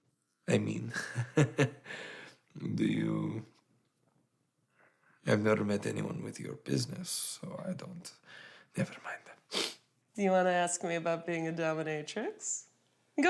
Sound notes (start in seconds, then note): 0.8 Radovan laughs; 9.4 Radovan sniffles